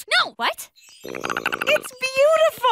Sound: chattering

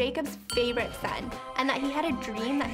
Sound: bell dings; heavenly music

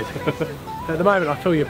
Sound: laughter

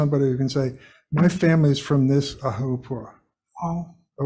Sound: speaks foreign language

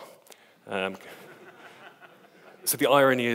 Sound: audience laughs

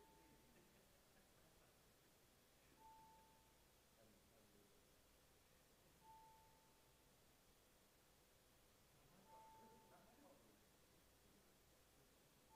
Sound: bells ringing

